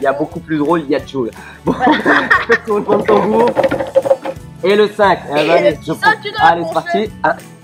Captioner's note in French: rires